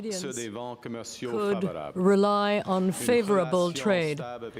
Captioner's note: speaking french